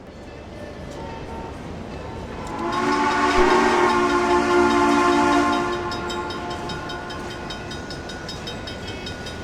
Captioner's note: CNJ Blue Comet Pacific whistle